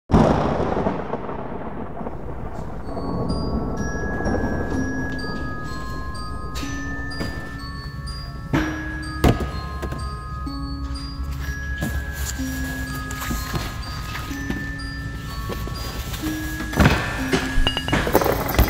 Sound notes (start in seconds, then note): 0.1 thunder; 3.3 eerie music plays; 8.5 boxes shuffling; 8.5 eerie music plays